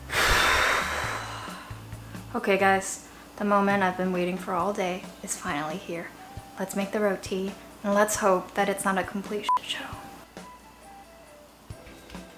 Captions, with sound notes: (sighs) Okay guys, the moment I've been waiting for all day is finally here. Let's make the roti and let's hope that it's not a complete (beeps) show.